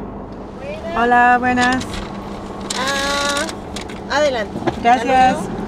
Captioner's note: in Spanish